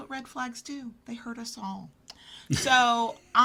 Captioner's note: laughs